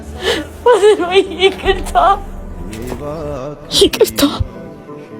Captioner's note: laughter